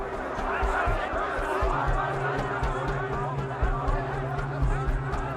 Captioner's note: crowd shouting